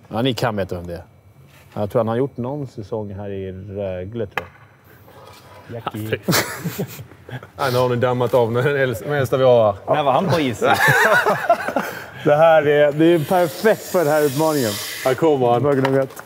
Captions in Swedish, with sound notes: Ja, ni kan veta vem det är. Jag tror att han har gjort någon säsong här i Rögle tror jag. Nej, nu har ni dammat av den äldsta vi har här. När var han på is sist? (skratt) Det här är ju perfekt för den här utmaningen. Här kommer han!